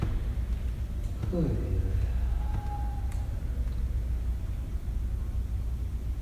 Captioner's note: big sigh